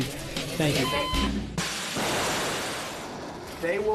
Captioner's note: rocket launching